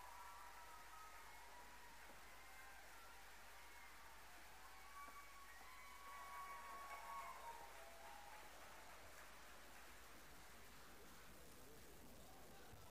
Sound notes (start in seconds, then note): 0.0 applause